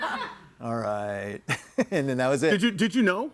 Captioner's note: laughs